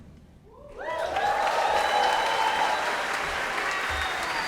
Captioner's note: cheering, applause